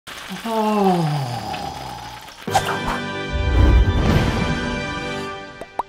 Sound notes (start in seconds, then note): 0.0 sizzling noise